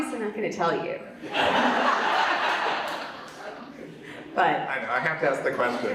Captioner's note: audience laughs